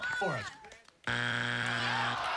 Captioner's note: buzzer